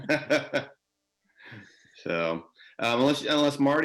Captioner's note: laughter